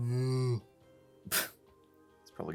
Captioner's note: chuckle